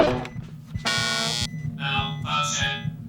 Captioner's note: boing!; buzzing